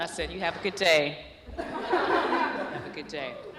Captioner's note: laughter